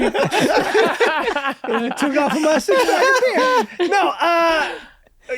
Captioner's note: all laughing